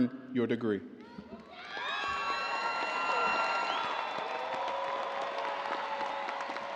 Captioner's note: audience cheering and applauding